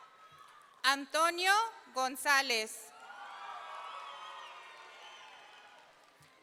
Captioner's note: audience cheering